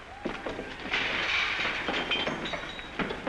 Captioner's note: glass smashing